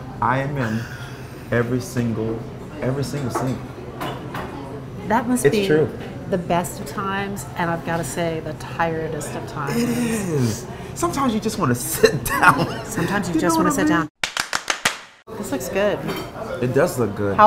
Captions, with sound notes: I am in every single, every single scene. - That must be. - It's true. - The best of times and I've gotta say, the tiredest of times. - It is. Sometimes you just wanna sit down. (laughing) - Sometimes you just wanna sit down. - You know what I mean? (clapping) - This looks good. - It does look good.